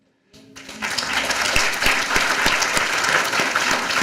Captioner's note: applause